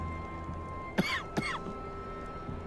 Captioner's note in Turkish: Öksürük sesi